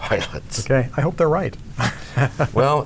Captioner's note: laughs